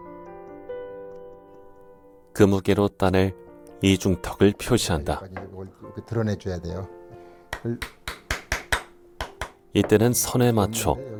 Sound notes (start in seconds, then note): 7.5 hammering sound